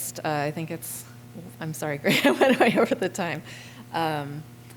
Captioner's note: laughter